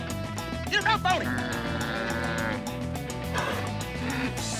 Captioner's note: bull grunting